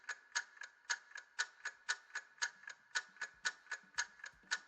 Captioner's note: clock ticking